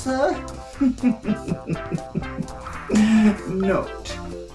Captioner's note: chuckles